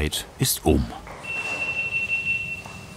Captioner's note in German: Piepsen